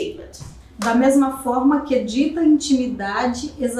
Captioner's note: speaking portuguese